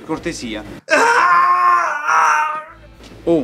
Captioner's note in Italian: urla di dolore